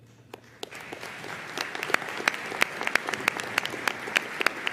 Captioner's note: audience applauding